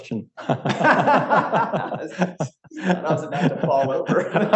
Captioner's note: group laughs